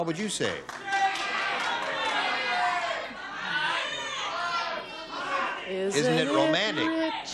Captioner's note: shouting